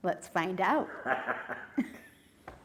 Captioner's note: laughing